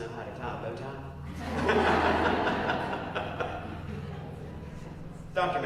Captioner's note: laugh